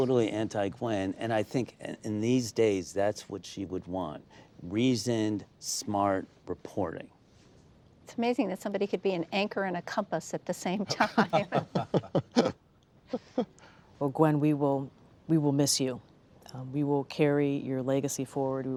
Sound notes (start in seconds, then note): 10.9 laughter